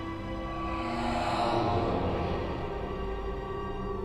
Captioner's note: ghostly Voice